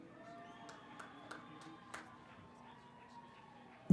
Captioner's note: cheering